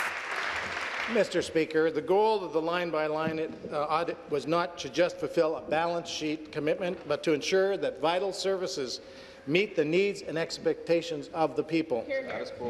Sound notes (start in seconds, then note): 0.0 applause